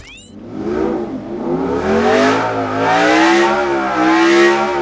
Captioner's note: engine roaring